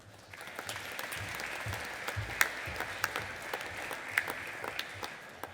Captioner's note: audience applauding